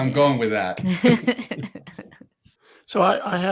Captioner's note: chuckling